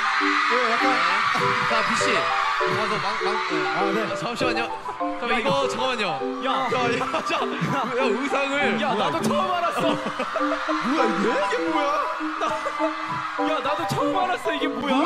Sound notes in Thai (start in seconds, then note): 9.7 เขินและขำกลบเกลื่อน